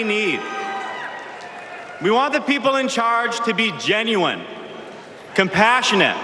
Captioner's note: cheers and applause